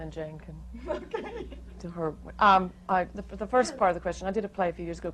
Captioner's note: laughing